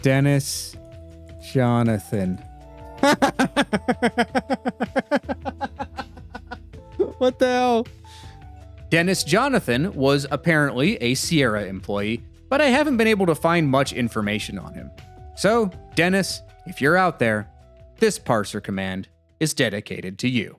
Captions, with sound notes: Dennis Jonathan. (laughing) What the hell? Dennis Jonathan was apparently a Sierra employee, but I haven't been able to find much information on him. So Dennis, if you're out there, this parser command is dedicated to you.